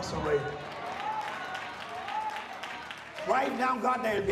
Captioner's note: applause